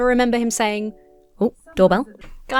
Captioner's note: doorbell rings